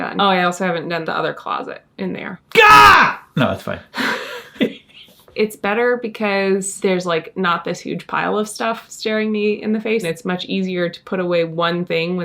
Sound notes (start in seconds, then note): 3.9 both laugh